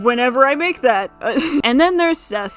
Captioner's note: chuckles